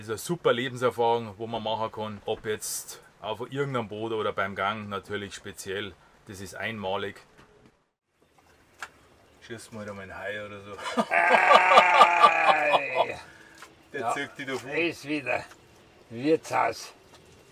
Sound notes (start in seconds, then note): 10.8 loud laughter